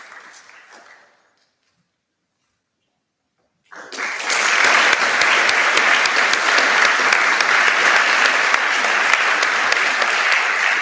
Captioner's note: applause